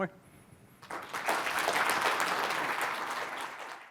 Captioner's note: applause